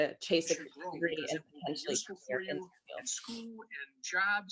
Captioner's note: audio glitch